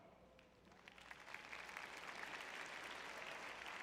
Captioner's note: applause